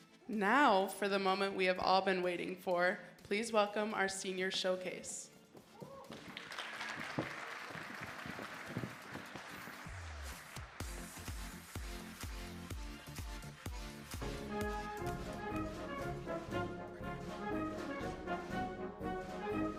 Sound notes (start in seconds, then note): 6.0 audience applauding; 14.6 patriotic music